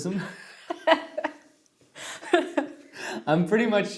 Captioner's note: laughs